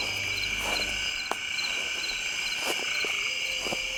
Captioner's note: crickets chirping